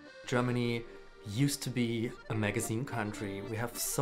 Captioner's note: voiceover